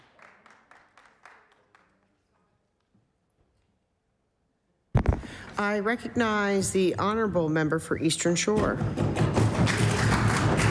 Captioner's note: applause